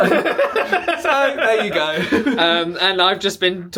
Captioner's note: laughing